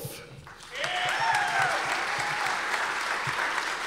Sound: audience applause

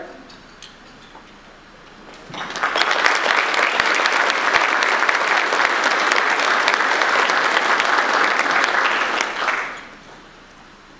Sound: audience applause

